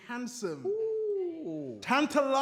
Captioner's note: others coo & whoop